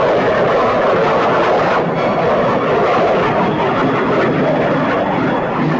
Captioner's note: plane engines roaring